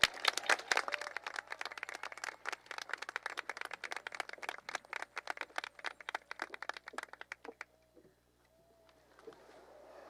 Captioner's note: applause